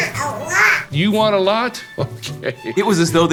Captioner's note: laughs